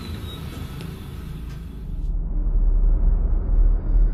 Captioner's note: whistling